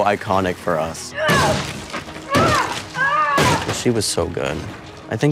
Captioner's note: Joyce grunts